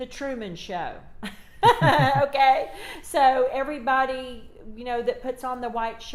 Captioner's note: both giggles